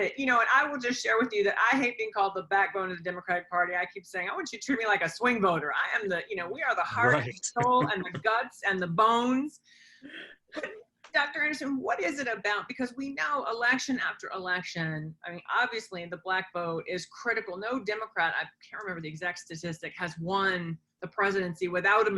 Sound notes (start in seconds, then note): 6.9 laughs